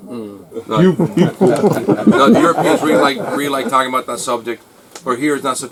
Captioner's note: laughs